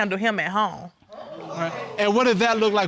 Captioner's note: audience murmuring